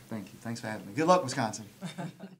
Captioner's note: laughter